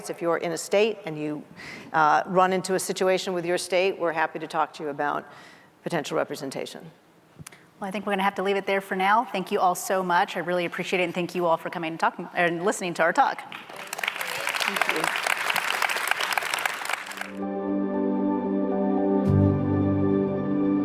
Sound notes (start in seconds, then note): 13.5 audience applauding; 17.4 soft music